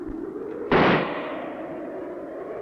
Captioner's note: gunshot